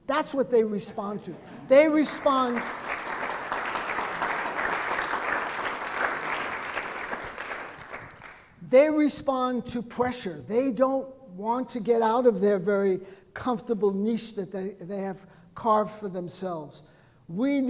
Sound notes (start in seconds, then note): 1.4 audience clapping